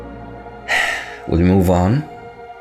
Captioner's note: sigh